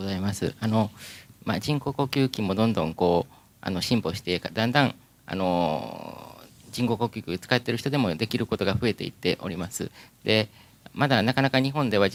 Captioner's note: speaking japanese